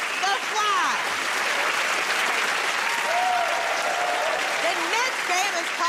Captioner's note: cheers and applause